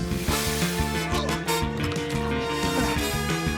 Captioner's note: grunts